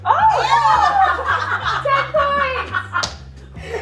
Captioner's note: all laugh